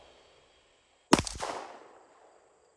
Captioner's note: gun shots